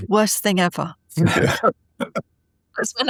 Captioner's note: laughing